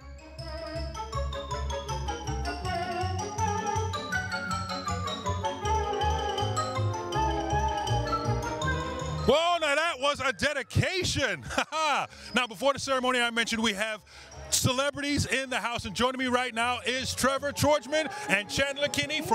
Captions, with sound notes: (playfully suspenseful music) - Whoa, now that was a dedication. (laughs) Now before the ceremony I mentioned we have celebrities in the house and joining me right now is Trevor Tordjman, and Chandler Kinney